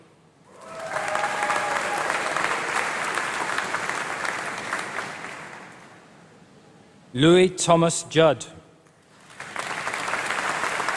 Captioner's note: applause